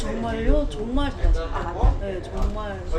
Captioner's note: Korean